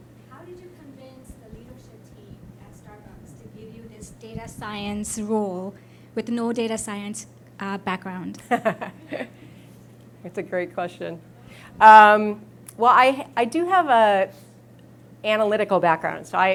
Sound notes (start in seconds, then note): 8.4 laughs